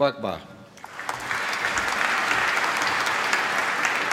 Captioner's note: applause